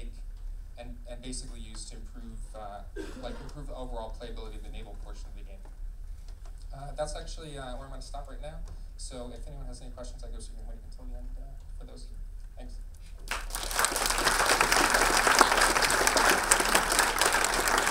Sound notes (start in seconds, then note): 13.2 audience clapping